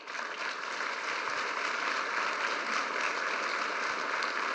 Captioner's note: applause